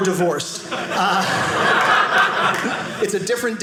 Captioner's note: audience laughing